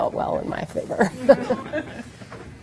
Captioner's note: laughter